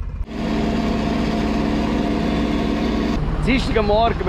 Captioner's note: engine noise